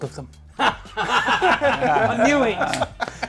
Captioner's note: everyone laugh